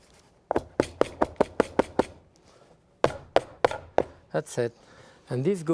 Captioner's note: cake pan tapping